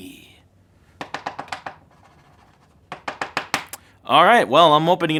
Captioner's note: tapping